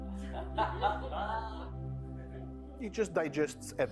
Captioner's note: laughing